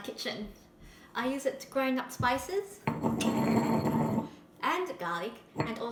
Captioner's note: grinding sounds